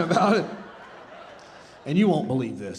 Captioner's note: audience laughing